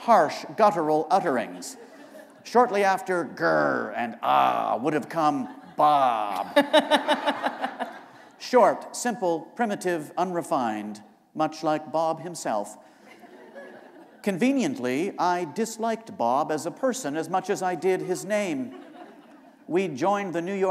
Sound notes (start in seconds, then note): 1.5 laughter; 5.4 laughter; 13.0 laughter